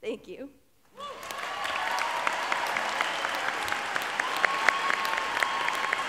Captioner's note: audience applauds and cheers